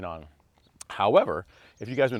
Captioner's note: birds chirping